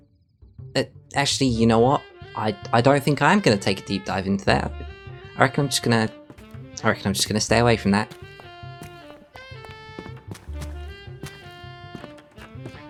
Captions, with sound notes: uh, Actually, you know what? I-I don't think I am going to take a deep dive into there. I reckon I'm just gonna- I reckon I'm just going to stay away from that. *walking noises*